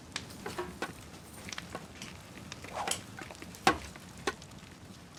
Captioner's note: swords thudding